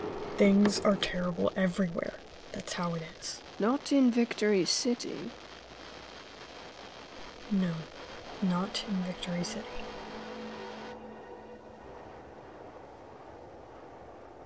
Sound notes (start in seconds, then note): none